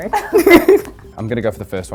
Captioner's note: laughing